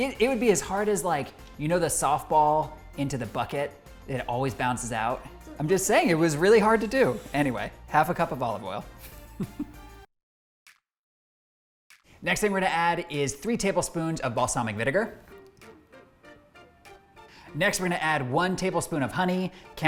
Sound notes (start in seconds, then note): 9.5 laughing; 14.4 upbeat music